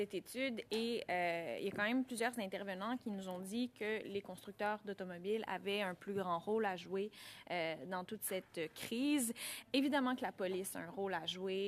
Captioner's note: speaking French